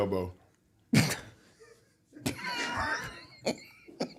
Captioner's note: all laugh